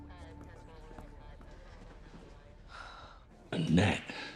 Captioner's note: woman speaking over radio; Ashley sighs